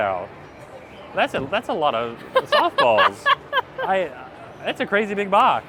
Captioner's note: laughing